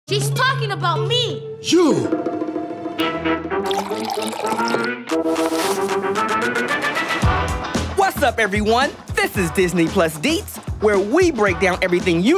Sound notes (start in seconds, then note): 2.6 upbeat music; 3.6 coffee dribbling